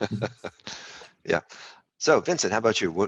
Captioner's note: laughs